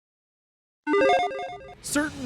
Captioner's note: transition chimes